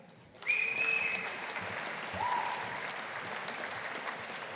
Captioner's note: audience applauding